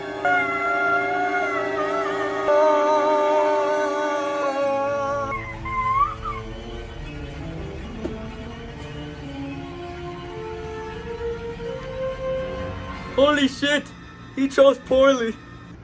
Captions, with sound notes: *screaming* AAAAaaaaaaaauuuh! *Elsa screaming* Holy shit! He chose poorly.